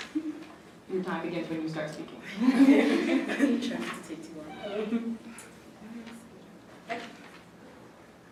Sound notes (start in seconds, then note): 3.6 laughing